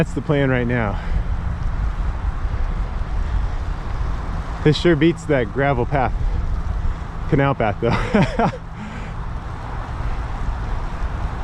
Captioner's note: laughing